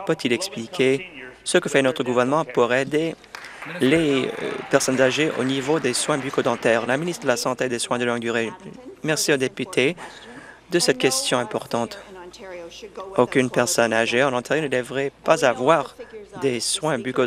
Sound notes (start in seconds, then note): 6.2 applause